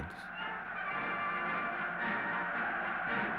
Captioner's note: cheering